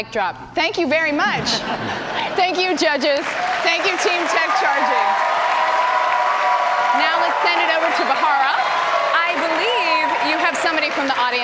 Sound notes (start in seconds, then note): 1.3 laughter; 3.9 cheers and applause